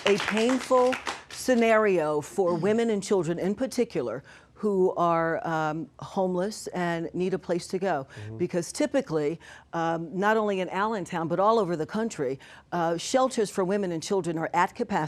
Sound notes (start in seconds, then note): 1.9 applause